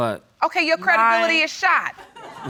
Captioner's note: laughter